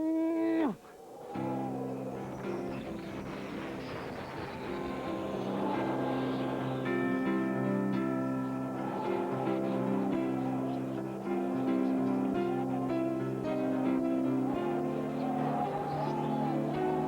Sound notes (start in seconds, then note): 2.2 wind blowing